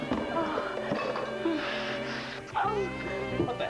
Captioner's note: clearing desk